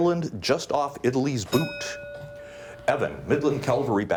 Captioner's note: bell dings